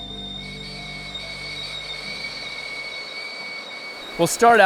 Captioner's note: kettle whistling